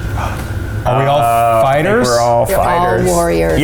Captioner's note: gasps